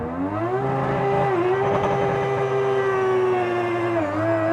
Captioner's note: engine roars